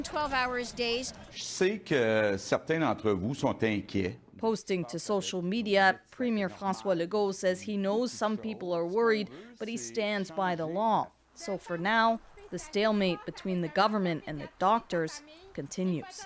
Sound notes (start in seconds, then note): 3.8 speaking French